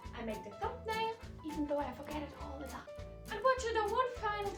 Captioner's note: Fycora whispers